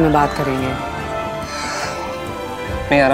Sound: sighs

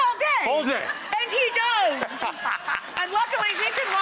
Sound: man laughs loudly

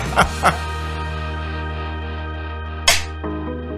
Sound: laughing; clap; upbeat music

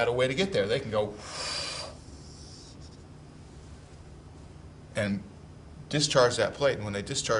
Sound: huffs

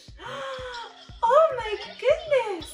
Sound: gasps

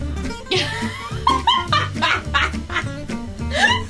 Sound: laughing

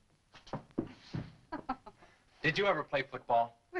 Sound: laughing

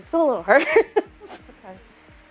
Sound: laughs

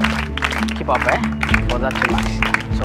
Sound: speaks Somali

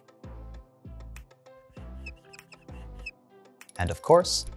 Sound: marker squeaking

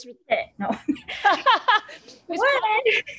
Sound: laughter

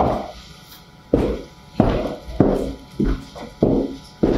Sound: loud footsteps

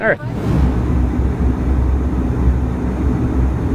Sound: roar of jet engine

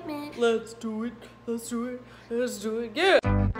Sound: low voice

